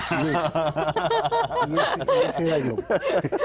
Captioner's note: risas